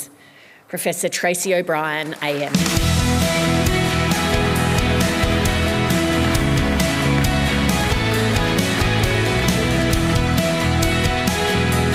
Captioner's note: applause